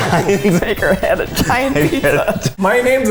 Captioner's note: both laughing